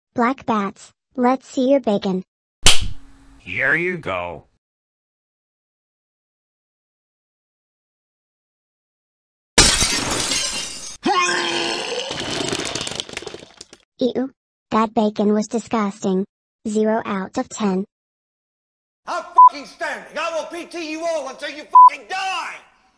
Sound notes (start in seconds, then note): 11.0 Betsy and Arthur vomit